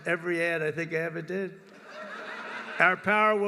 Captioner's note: laughter